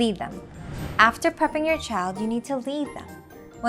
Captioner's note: text bubble whooshing